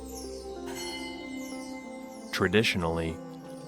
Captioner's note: gentle music; bell ringing